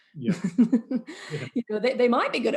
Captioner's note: laughs